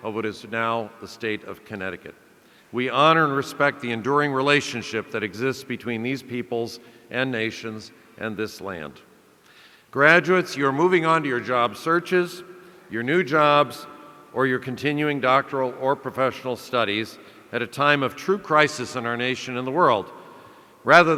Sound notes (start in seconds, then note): none